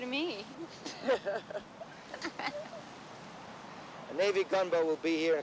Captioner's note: everyone laughing